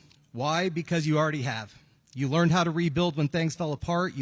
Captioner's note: none